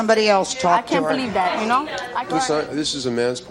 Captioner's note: overlapping chatter